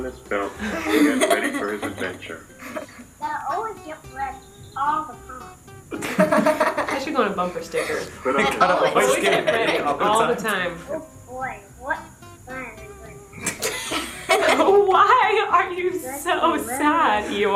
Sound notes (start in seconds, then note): 5.9 chuckles; 13.3 laughs